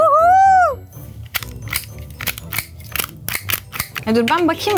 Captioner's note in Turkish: çakma sesi